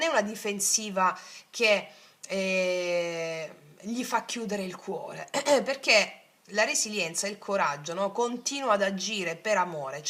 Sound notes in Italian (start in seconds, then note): 5.5 schiarire la voce